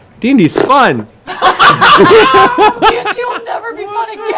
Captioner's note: laughter